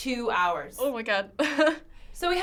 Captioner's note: laughing